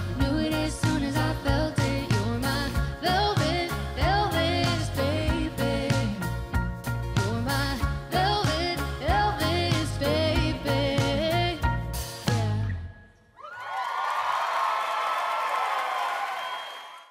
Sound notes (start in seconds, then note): 13.4 audience applauding